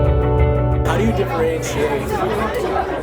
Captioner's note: crowd chatting